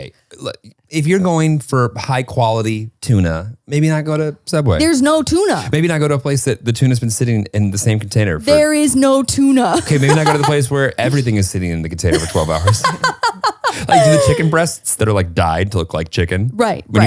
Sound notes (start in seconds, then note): 12.1 laughing